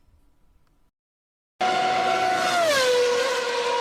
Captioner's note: F1 sound